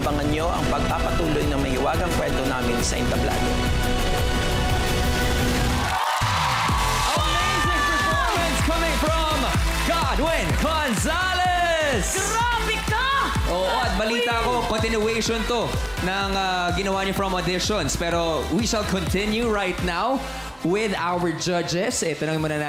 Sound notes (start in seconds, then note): 4.1 music swells; 6.0 audience cheering